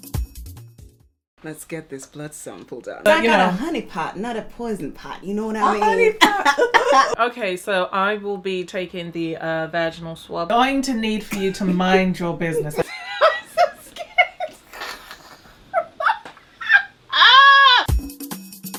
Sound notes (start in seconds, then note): 5.4 chuckles; 5.5 cough laughter; 13.6 laughs